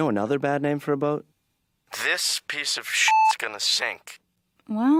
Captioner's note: beep